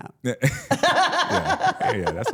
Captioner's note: laughs; laughing